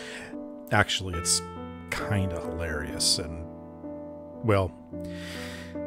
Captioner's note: none